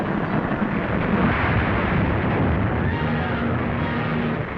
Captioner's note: crashing